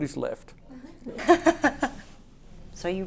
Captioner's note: laughs